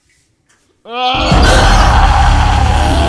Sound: overlapping screaming; threatening screaming

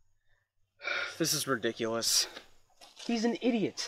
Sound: sigh

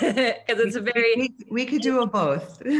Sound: laugh

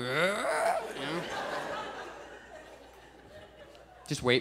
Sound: groans backwards; audience chuckles

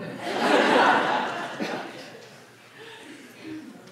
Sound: audience laughs

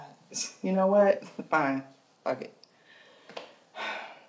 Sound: sighs

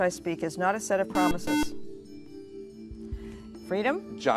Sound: buzzer

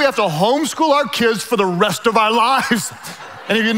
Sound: laughs

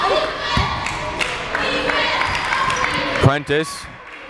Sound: crowd chanting defense

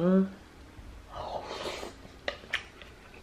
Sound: slurping

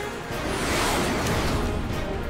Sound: planes roaring

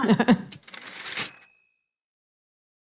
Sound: typewriter ding

